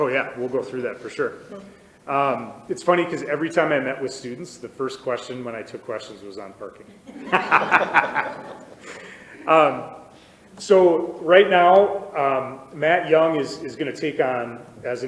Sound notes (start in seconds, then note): 6.8 all laughing